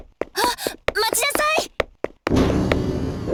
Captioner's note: gasp